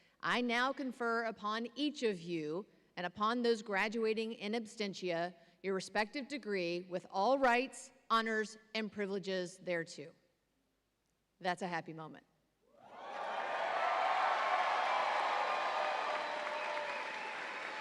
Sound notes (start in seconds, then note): 12.8 audience cheering